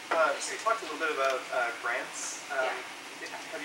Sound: voiceover

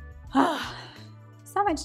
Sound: sighs

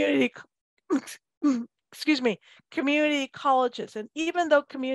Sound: clears throat

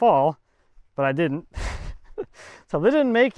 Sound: laughing

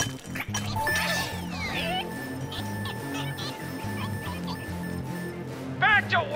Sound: collars beeping

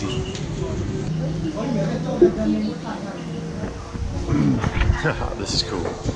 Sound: people talking in foreign language; laughs

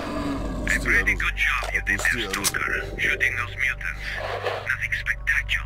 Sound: action music; DUTY OFFICER on radio

